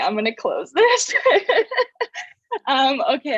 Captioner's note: laughs